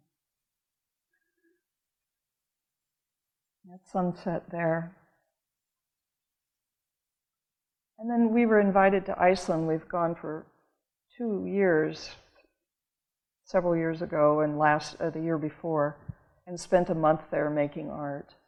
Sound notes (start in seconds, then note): none